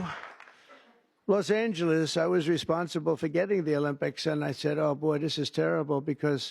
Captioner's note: applause